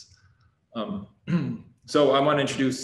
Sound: clears throat

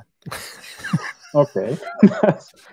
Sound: laughing

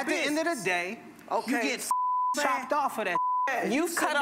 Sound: beep

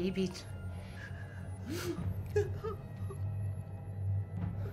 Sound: sobbing

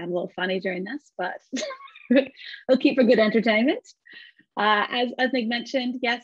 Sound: chuckles

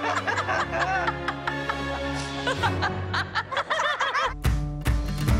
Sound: laughter

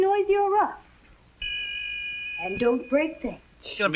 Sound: ding!

